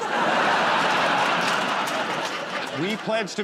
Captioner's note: laughter